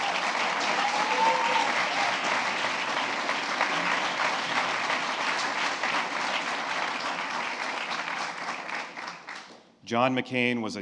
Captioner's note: applause